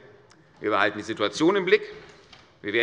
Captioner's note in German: none